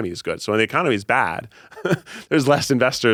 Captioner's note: chuckles